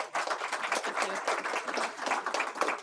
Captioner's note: applause